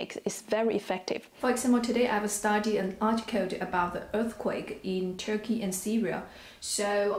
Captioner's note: in Arabic